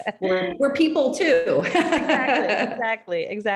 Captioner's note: laughing